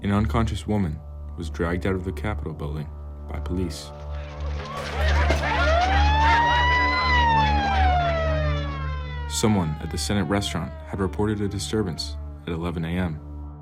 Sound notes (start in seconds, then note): 4.0 siren wailing; 4.6 people shouting